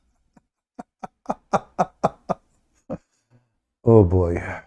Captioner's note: Ketawa